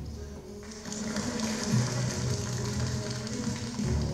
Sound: crowd applauding

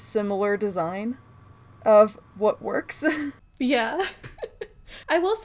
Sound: laughs

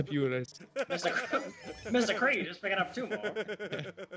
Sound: laugh

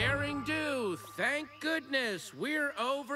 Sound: none

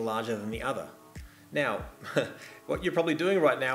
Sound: chuckles

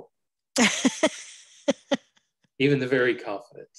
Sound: laughs

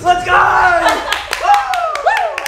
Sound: laughs

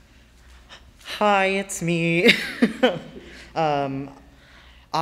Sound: laughs

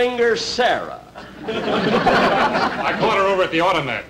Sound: audience Laughing

